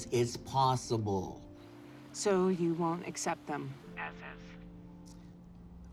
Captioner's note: laughs